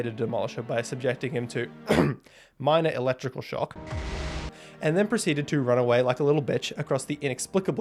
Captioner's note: ahem